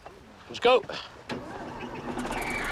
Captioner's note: engine starts